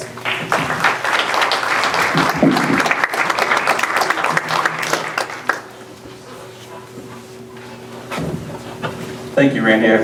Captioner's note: applause